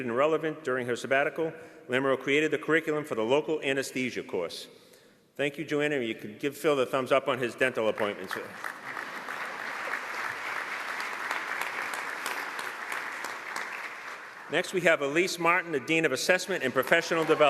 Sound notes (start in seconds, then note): 7.9 applause